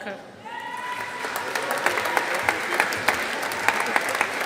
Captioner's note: audience applauding